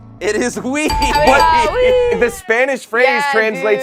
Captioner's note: bell dings